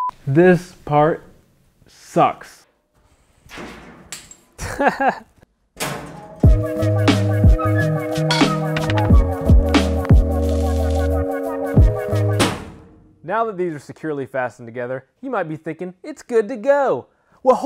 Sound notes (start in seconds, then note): 0.0 beep; 4.6 laughs; 6.4 rhythmic music; 12.4 metal clanks